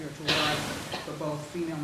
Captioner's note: audience member coughing